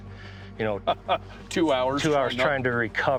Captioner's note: laughs